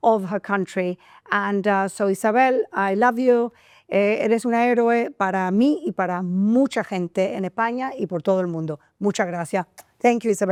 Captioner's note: speaking in foreign language